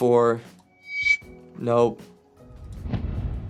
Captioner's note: whooshing